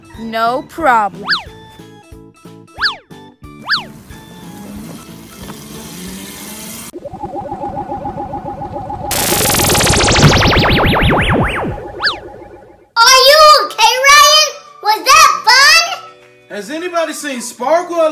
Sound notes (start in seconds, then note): 3.8 motorcycle engine humming; 6.9 portal pulsing